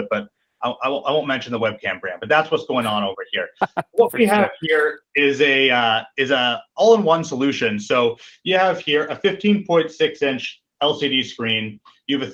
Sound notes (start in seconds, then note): 3.6 chuckles